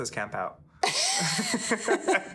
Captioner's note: laughing